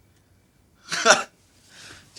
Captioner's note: laughs